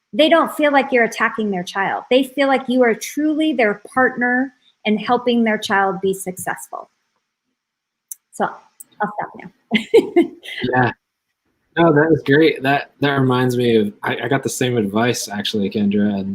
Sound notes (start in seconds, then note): 9.7 laughs